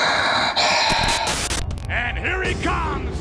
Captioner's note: graphics hissing; static crackling; lively music